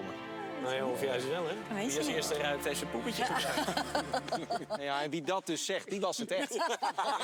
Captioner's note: laughter